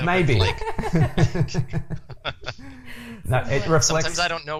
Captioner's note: laughs